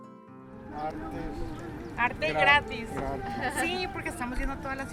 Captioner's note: speaking spanish